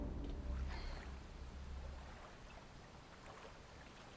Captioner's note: water lapping